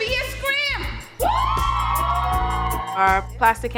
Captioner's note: kids scream